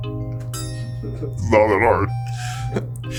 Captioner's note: deep voice